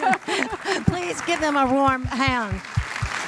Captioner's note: laugh; applause